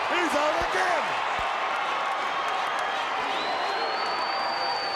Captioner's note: crowd cheering